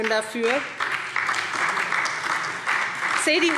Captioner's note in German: Beifall